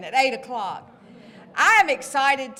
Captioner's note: laughter